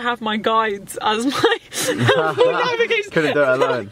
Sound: laughs

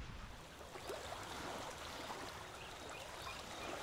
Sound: water lapping

